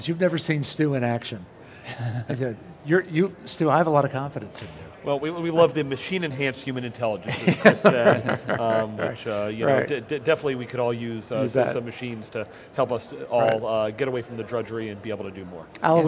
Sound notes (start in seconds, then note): 7.3 laughs